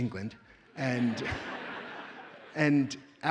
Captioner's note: audience laughs